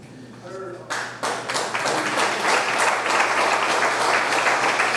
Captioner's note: audience clapping